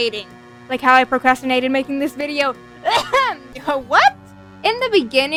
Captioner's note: ahem